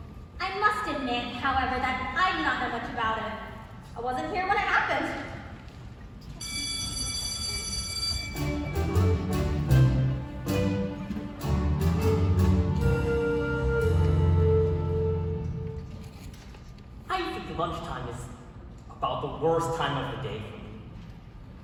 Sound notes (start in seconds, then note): 6.4 school bell and music